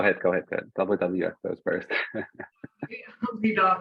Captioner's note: laughs